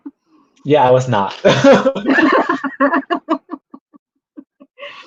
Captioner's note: both laugh; laughs